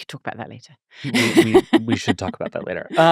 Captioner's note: laughing